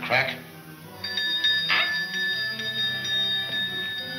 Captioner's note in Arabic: رنين الجرس